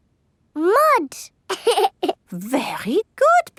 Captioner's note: laughs